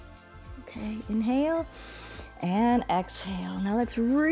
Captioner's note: inhales